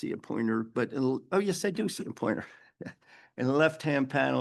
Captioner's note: chuckles